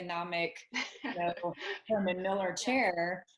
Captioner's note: laughs